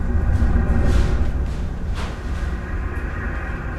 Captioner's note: objects rustling